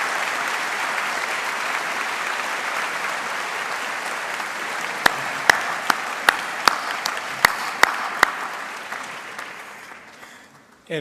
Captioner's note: applause